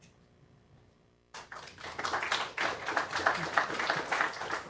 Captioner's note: applause